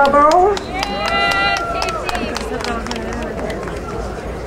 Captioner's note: crowd cheering